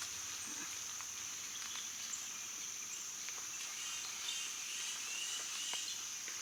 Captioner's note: birds and bugs chirping